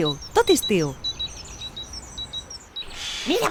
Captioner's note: singing of chickadees